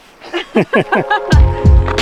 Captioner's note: laughing